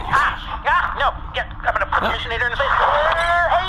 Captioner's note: yelps, dodging the tornada